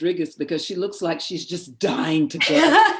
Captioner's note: laughter